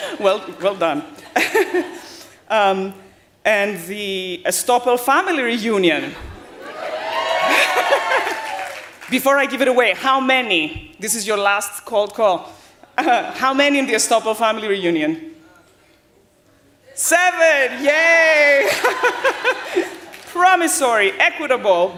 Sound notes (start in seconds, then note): 6.5 cheering